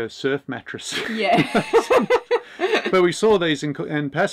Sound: laughs

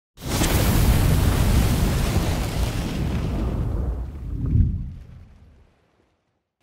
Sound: fire sizzles; fire whooshes

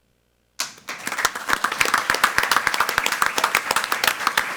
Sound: all applaud

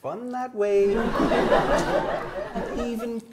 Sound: audience laughs

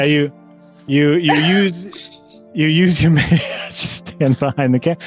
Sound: scattered Chuckles

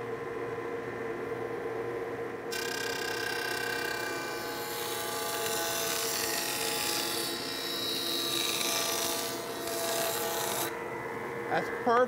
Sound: cutter hums

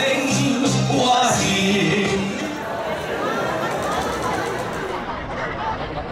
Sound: general crowd sounds, no dialogue; sped-up general crowd sounds, no dialogue

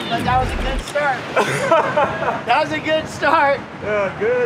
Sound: laughs

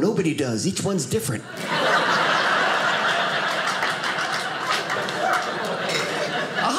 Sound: audience laughing

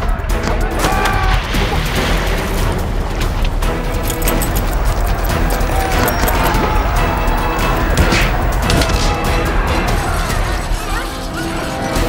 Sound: fighting noises

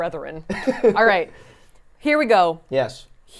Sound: laughs

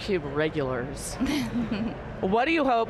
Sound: laughing

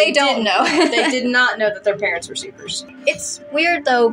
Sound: laugh

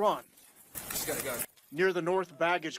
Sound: nats of running at :26

